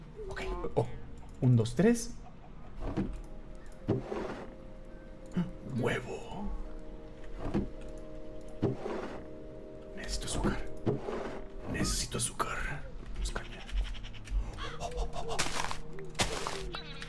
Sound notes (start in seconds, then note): 0.0 in Spanish; 2.8 barrel closes; 2.8 barrel opens; 5.3 gasps; 7.2 barrel opens; 7.3 barrel closes; 9.7 whispering; 16.1 sugar cane breaking